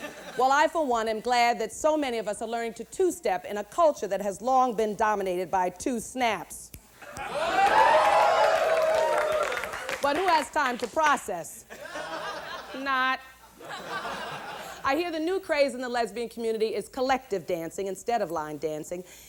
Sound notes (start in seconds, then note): 6.7 snaps fingers; 7.1 applause, hoots, laughter; 11.6 laughter